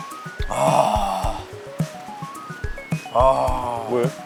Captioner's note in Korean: 감탄